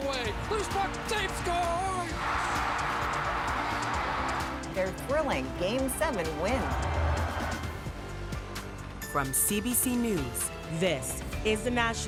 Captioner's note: cheers and Applause